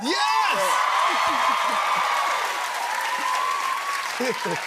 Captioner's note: cheers and applause